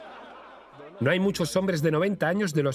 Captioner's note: laughing; voiceover